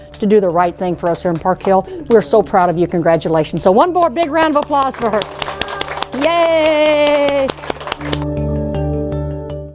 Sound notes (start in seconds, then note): 4.4 clapping; 8.4 upbeat music